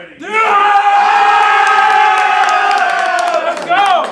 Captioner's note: yells